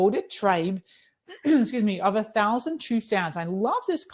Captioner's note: clearing throat